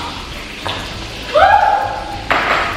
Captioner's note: oil splatters